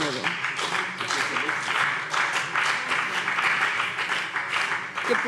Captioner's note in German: Beifall BÜNDNIS 90/DIE GRÜNEN und vereinzelt CDU